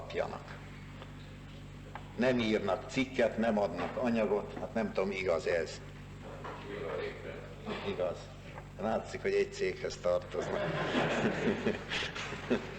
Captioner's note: shouts: "True, true."; laughter